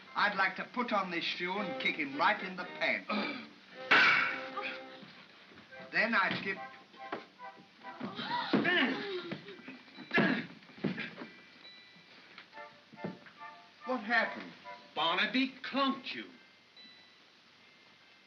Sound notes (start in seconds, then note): 3.9 crack; 8.5 soft thump; 10.2 Stan groans; 18.0 soft whimsical music